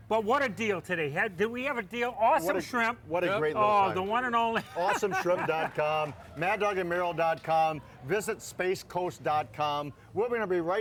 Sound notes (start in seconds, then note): 4.7 laughs